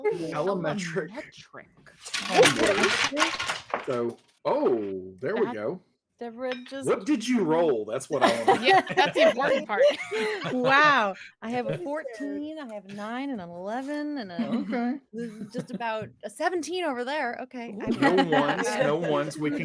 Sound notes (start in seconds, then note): 2.5 loud crash; 8.1 laughing; 17.8 laughing